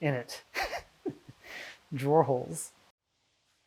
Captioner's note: chuckling